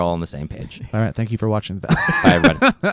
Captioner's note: laughs